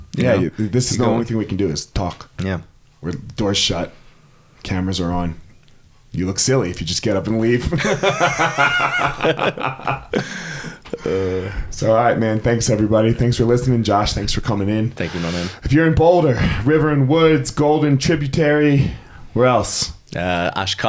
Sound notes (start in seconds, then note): 7.6 both laughing